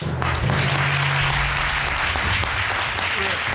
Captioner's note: audience applauds